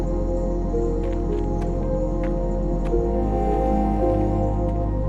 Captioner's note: footsteps